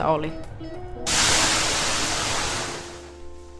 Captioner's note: 𝘴𝘢𝘶𝘯𝘢 𝘴𝘵𝘰𝘷𝘦 𝘩𝘪𝘴𝘴𝘪𝘯𝘨